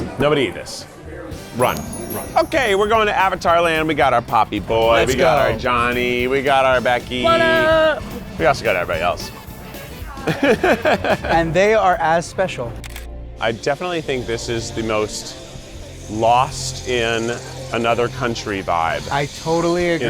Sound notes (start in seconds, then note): 10.1 laughs; 12.8 camera shutter clicks